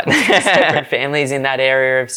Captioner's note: laughs